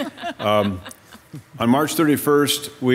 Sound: members loudly chuckling

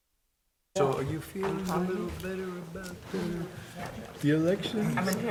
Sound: members chattering

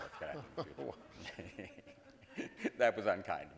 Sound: audience laughing; laughs

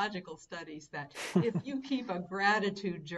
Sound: laughing

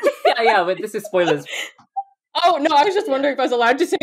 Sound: laughing

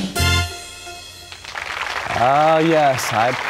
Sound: applause

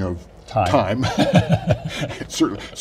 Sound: laughs

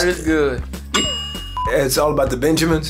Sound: bell sound

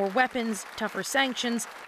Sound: applause

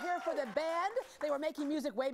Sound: cheering and applause

